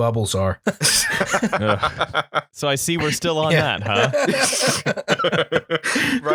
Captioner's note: laughter